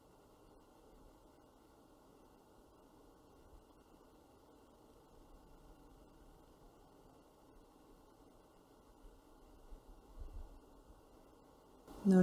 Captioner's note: silence